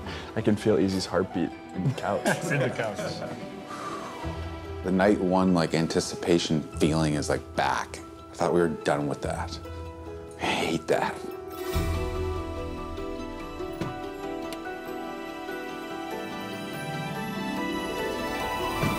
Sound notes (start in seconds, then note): 1.9 laughter; 3.6 exhales deeply